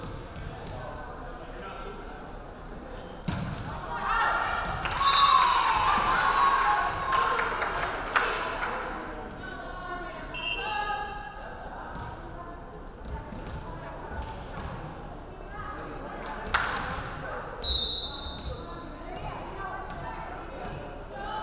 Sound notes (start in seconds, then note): 5.3 crowd clapping; 5.4 referee whistling; 17.6 referee whistling